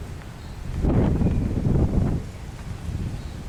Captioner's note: wind Blowing